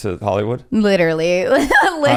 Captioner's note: laughs